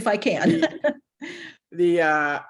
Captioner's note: laughter